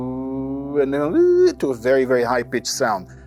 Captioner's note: humming